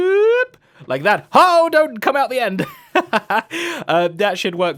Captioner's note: laughs